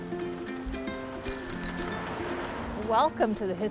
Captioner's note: chiming bike bell